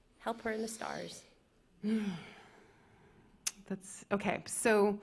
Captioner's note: sighs